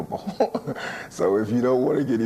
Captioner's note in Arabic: ضحكات